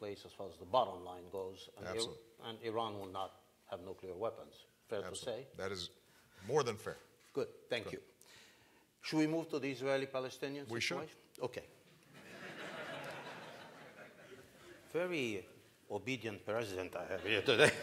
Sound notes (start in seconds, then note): 14.9 laughter; 17.1 laughter